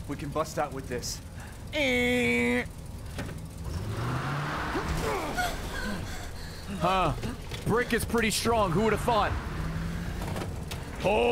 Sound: car noise

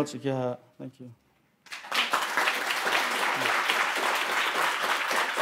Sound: audience clapping

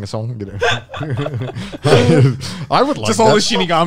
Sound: everyone laughs

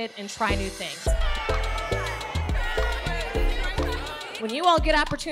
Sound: kids cheering

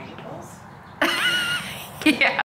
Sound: laughing

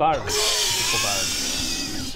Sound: hissing laughter

